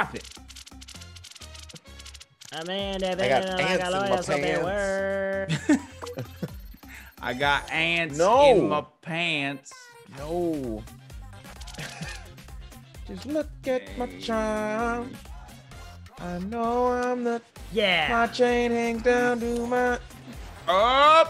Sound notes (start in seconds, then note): 5.2 laugh; 11.6 laugh